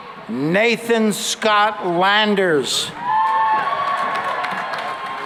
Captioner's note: cheering and applause